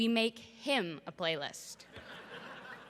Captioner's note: laughter